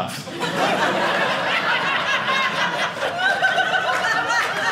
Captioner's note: audience laughing